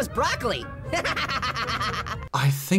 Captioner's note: Orange laughing